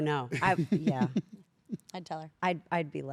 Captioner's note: laugh